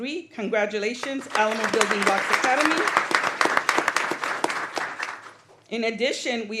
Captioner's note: applause